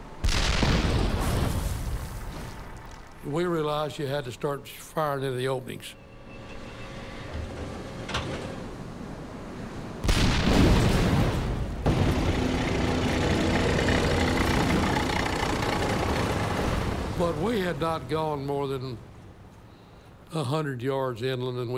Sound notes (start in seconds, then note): 0.1 cannon shots exploding; 6.4 turret humming while turning; 10.0 cannon shots exploding; 11.9 tanks rumbling